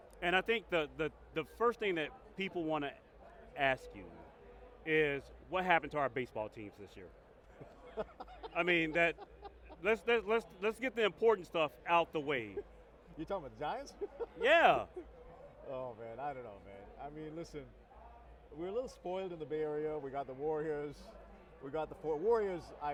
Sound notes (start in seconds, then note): 7.9 laughs